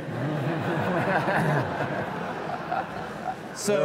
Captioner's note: audience laughs